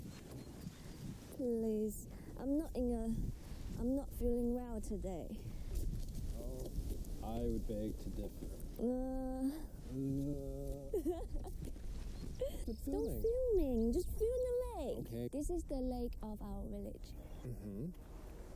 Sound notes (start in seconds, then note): 10.8 Kate laughs